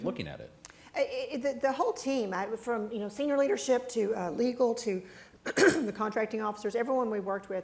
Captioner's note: coughs